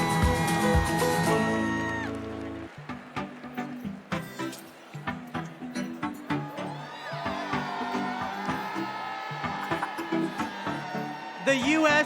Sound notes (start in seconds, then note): 0.0 cheers and applause